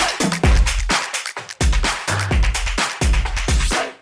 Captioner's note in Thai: ปรบมือ